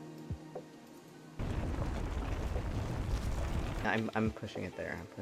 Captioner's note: gravel sounds